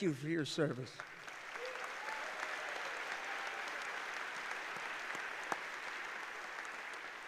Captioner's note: applause